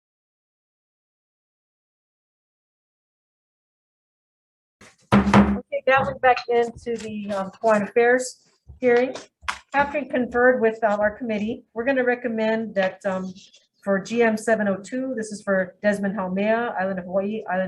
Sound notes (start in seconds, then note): 5.0 gavel tapping